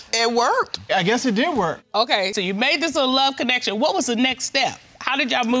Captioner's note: none